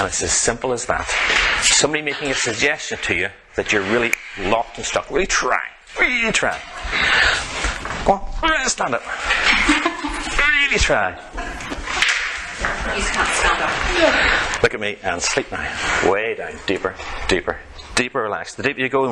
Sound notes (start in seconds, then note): 11.3 lady in chair laughs